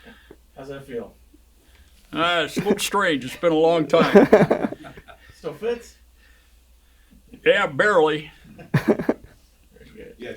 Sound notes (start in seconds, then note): 0.0 chuckles; 3.9 laughs; 4.0 interviewer laughs; 8.5 people laughing